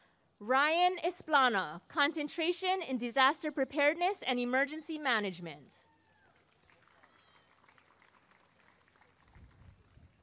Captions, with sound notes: Ryan Esplana Concentration in Disaster Preparedness and Emergency Management [applause and cheering]